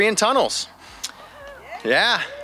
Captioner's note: cheering